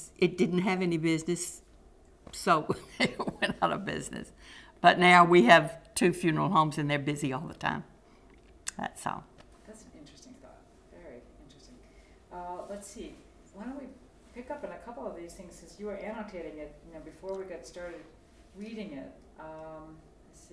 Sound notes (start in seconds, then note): 4.4 laughter